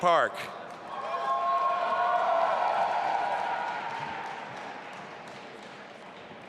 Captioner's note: audience applauding and cheering